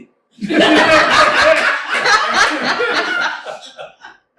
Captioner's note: laughter